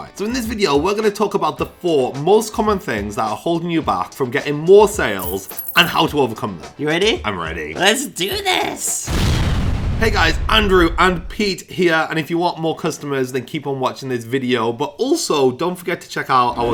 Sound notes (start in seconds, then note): 5.1 money jingling; 9.0 loud explosion